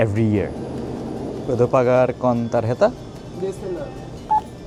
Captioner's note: foreign language